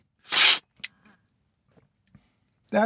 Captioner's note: slurp